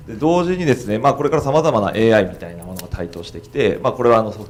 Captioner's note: speaking foreign language